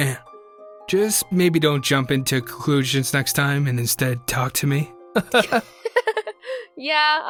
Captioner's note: laughs